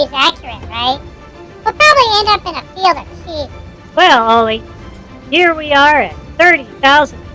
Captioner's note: sarcastically